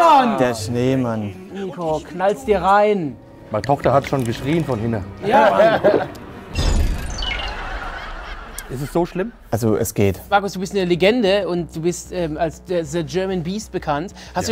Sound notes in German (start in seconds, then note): 5.3 Lachen; 7.3 Gelächter